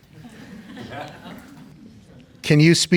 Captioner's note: laughter